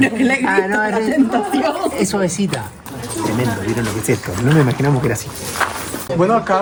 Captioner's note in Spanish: risas